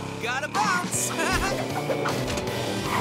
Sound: laughing

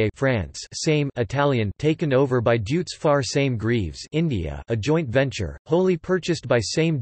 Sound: Italian

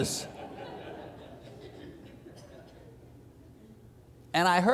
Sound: congregation laughs

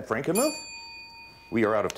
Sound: ding

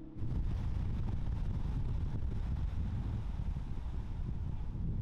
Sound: wind gushing

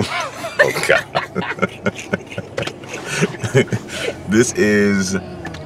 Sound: laughs

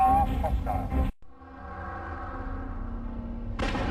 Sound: dramatic sounds

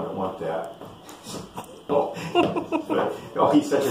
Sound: laughs

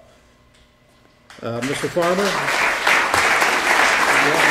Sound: applause

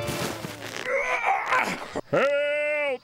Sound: grunting

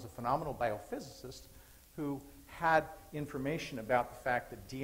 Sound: none

